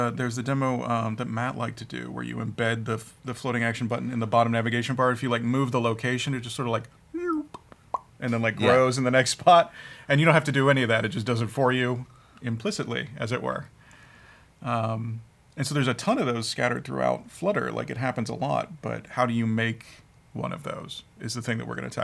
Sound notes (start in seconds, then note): 7.0 imitates computer beeps